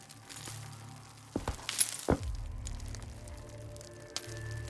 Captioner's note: rocks clattering